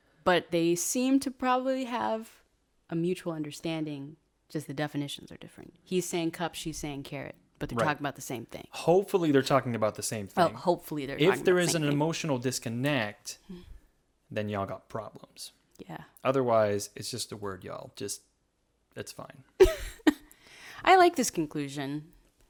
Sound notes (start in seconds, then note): 19.6 laughs